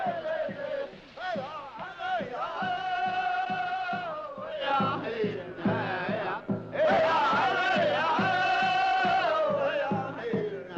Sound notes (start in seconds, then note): 5.6 chanting continues